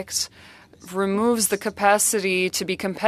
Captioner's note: speaking French